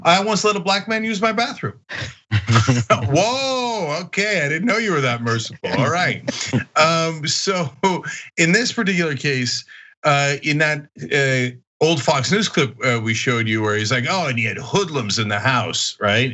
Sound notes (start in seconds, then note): 2.7 laugh